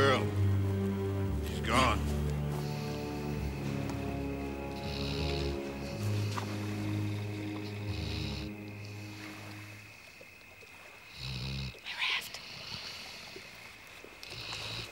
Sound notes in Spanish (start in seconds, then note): 4.7 ronquidos; 11.1 Susurrando